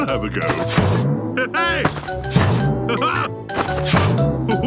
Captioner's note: laughs